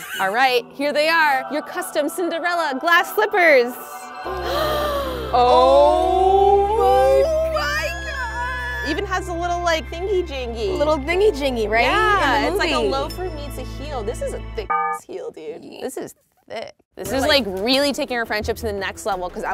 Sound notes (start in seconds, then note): 0.2 laughs; 4.3 gasps; 14.7 beeps